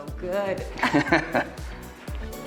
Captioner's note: both chuckling; upbeat music